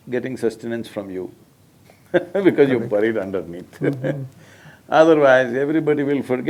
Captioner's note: laughs